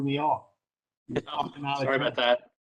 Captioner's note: laughter